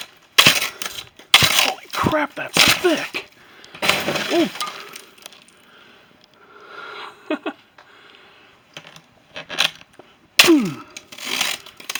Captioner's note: laughs